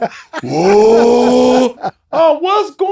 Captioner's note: Cuttino laughing